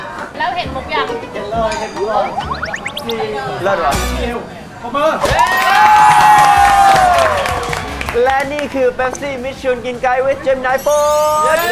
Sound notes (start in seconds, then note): 5.4 applause